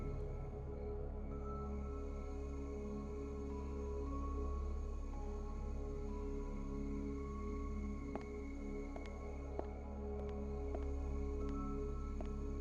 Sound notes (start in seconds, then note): 9.5 footsteps pattering